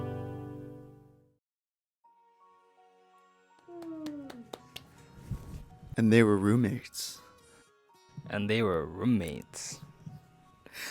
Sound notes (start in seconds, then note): 3.6 clapping